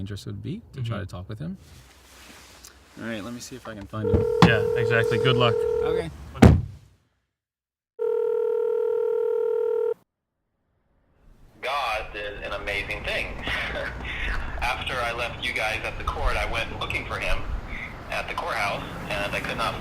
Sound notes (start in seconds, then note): 8.0 phone ringing